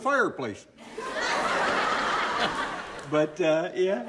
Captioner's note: audience laughing